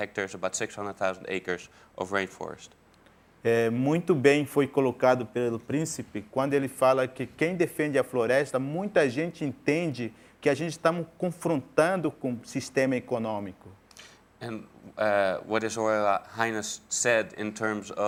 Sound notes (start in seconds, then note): 6.8 speaking in portuguese